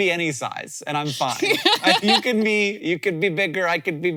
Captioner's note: laughing